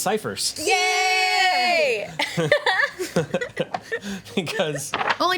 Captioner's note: group cheers; group laughs